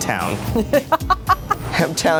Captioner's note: laughing